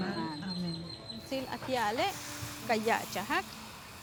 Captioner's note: speaking Spanish